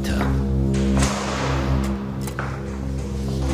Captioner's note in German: Unheilvolles Dröhnen, Schließgeräusche